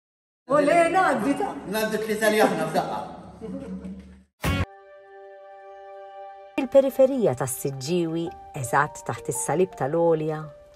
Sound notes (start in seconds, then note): 3.3 giggling